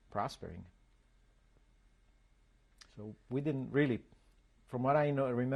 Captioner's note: pauses for 3 seconds